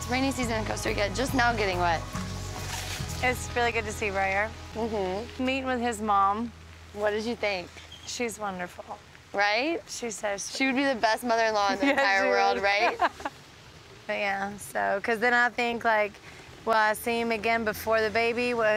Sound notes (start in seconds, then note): 13.7 laughs